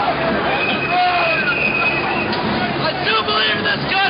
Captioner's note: voiceover; whistle blowing; voiceover